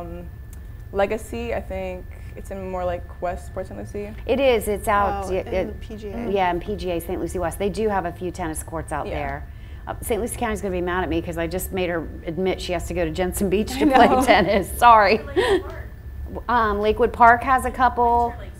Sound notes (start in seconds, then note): 13.7 laughs